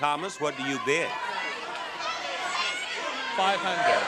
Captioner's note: audience clamors